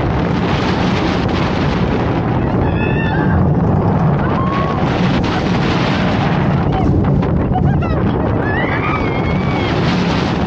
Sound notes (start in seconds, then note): 1.2 screams building up